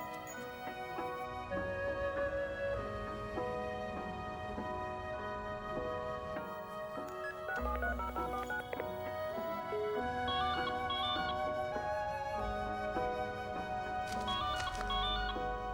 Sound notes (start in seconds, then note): 10.3 phone rings; 14.1 ringing